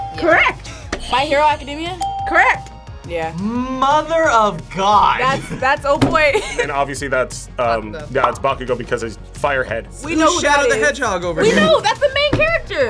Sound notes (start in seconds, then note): 0.9 bell rings; 0.9 buzzer rings; 6.2 laughs